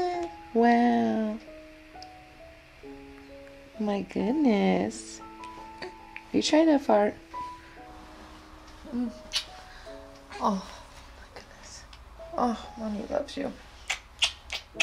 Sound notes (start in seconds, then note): 0.0 cooing and music playing; 11.0 cooing throughout